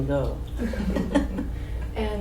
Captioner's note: all laugh